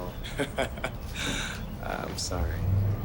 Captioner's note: Jim laughing